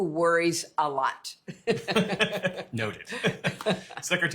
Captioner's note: laughter